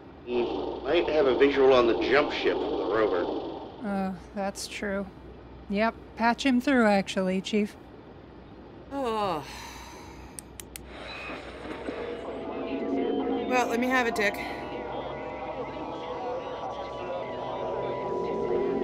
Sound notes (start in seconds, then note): 9.4 sigh; 11.0 distorted sounds over the radio